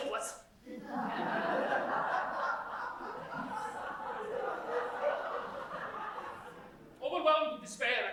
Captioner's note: laughter